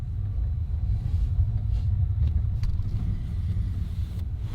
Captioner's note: train rumbling